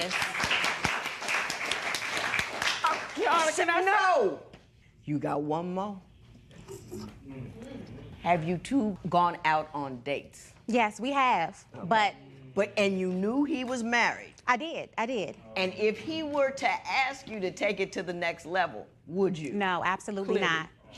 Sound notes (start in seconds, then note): 0.0 applause; 6.5 spectators murmur